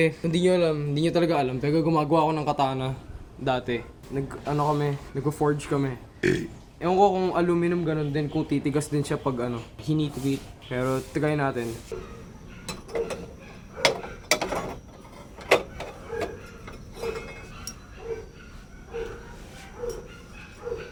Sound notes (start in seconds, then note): 6.2 burp